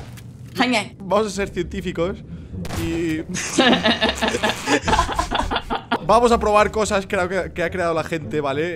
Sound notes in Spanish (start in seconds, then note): 3.4 Risas